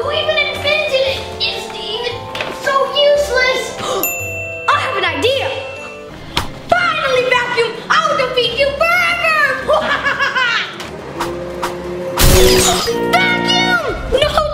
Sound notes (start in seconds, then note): 4.0 ding; 9.6 laughing; 11.3 vacuum whirring; 12.2 glass breaking